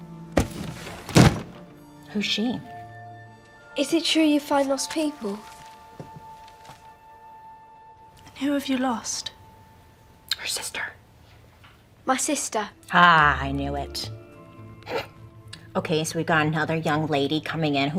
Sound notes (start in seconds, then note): 0.3 book thuds closed; 9.8 whispers